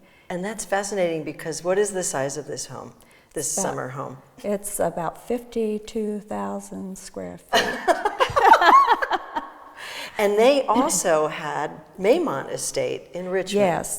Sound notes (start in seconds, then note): 7.6 all laughs